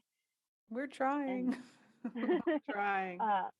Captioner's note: laughter